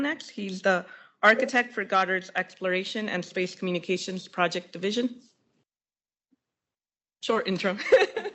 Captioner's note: laughs